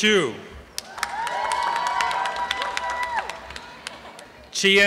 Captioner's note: applause and cheering